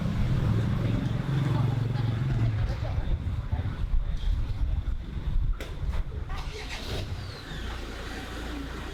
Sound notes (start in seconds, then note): 4.2 engines whirring